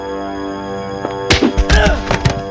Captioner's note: hits